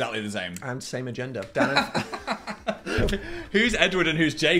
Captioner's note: Phil laughs